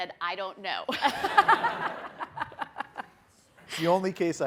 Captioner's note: people laughing